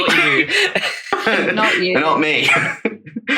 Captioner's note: laughing